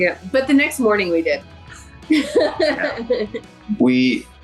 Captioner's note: laughing